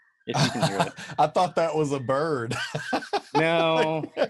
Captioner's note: laughs